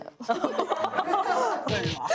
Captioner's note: holding back laughter